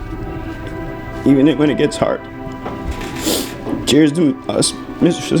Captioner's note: nose sniffing